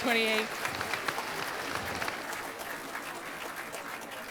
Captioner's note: group clapping